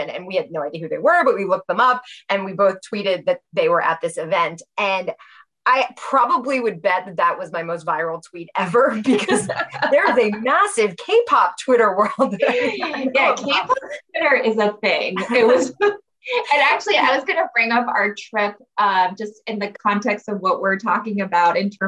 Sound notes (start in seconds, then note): 12.8 laughs